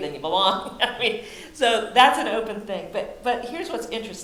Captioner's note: laughs